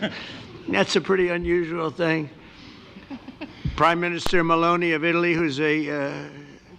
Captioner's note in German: lacht